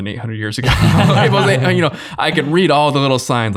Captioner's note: all laughing